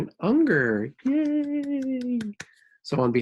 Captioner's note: claps